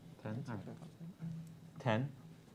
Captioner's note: murmurs